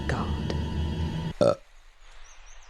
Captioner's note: burps; silence